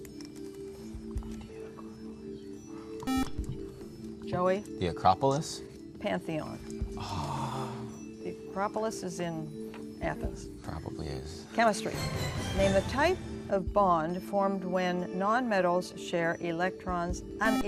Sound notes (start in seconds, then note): 0.1 whispering; 3.0 buzzer; 7.0 groans intensely; 17.4 buzzer